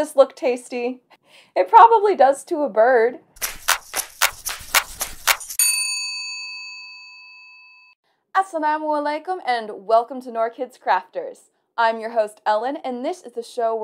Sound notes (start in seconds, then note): 3.4 exciting hand clapping; 5.5 bell ringing